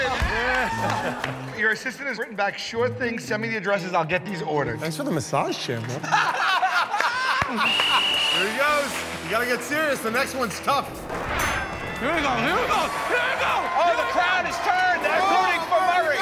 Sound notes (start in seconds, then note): 5.9 laughter; 11.8 cheers and applause